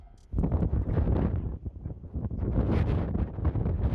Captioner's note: wind roaring